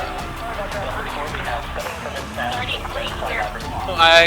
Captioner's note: fast paced, upbeat music; radio chatter